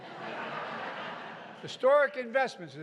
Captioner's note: laughter